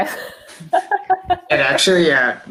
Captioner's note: laughs